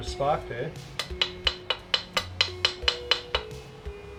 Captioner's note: banging